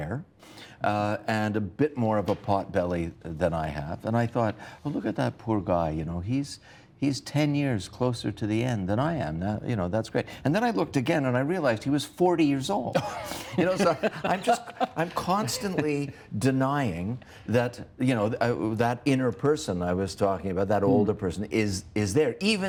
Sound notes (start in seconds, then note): 11.0 chuckles